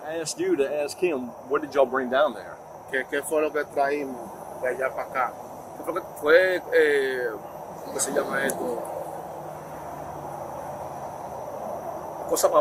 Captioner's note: speaking Spanish